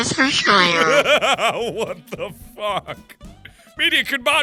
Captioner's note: laughing